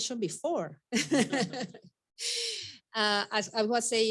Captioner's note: all laughing